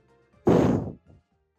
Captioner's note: loud exhale